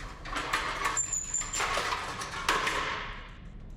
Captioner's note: cart clattering